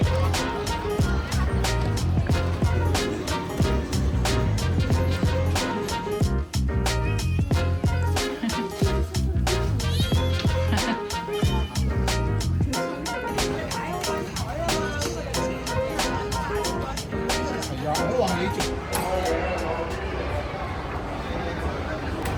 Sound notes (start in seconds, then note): 7.0 squealing inside